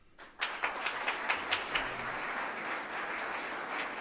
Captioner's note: audience applauds